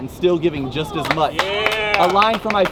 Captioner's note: audience claps